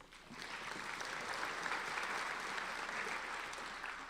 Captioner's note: applauding